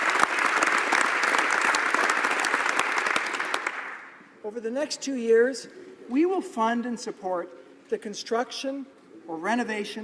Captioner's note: applause